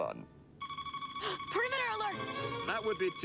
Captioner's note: alarm sounds